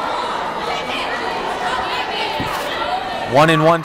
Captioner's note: yelling